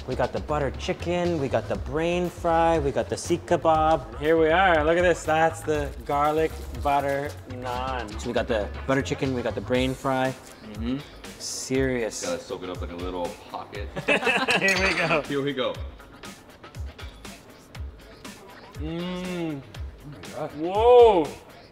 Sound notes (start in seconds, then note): 13.9 both laugh; 16.3 upbeat music